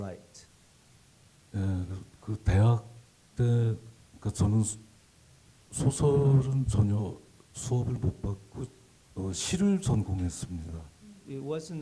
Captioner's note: speaking Korean